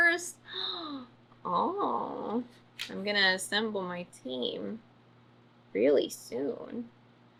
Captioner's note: gasps